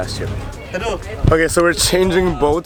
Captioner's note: foreign language